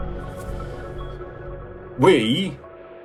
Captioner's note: graphics swishing softly